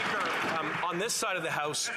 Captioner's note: applause